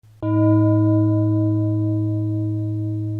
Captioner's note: gong